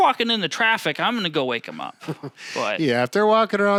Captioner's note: chuckles